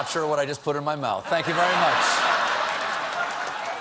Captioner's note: laughter; applause